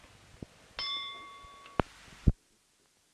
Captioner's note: bell Sound